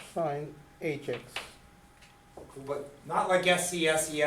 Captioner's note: voiceover